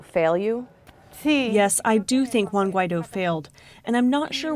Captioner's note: through translator